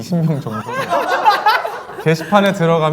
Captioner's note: laughing